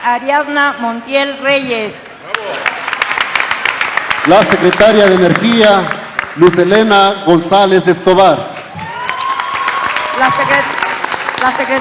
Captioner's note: applause